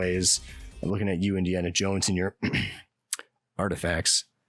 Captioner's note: ahem